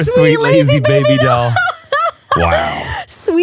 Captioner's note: laughs